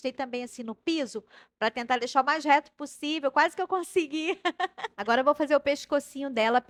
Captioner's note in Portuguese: risadas